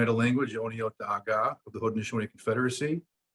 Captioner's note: speaks foreign language